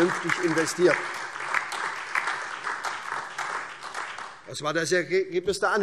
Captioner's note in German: Beifall